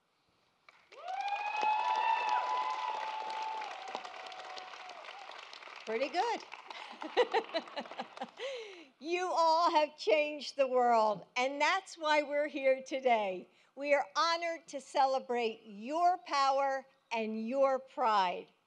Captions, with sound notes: (Applause.) Pretty good. (Laughs.) You all have changed the world. And that's why we're here today. We are honored to celebrate your power and your pride.